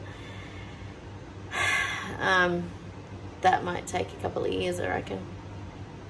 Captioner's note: big sigh